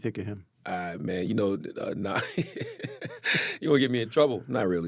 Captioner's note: laughs